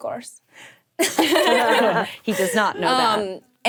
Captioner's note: group laughing